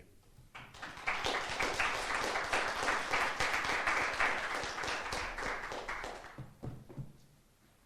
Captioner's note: appluase